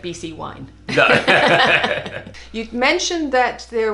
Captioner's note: both laughing